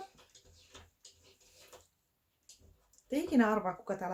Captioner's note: scratching sounds in the background